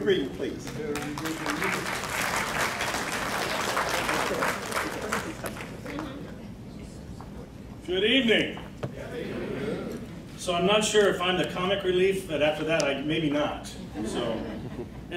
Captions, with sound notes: Greet him please. (crowd clapping) - Good evening. (crowd responding) So I'm not sure if I'm the comic relief and after that maybe not, so.